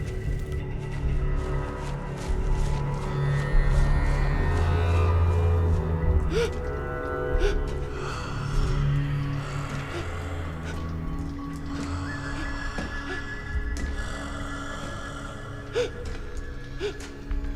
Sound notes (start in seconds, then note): 6.2 gasping; 11.7 heavy breathing